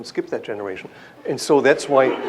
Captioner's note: laughter